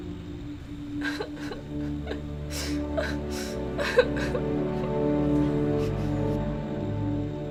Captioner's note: cries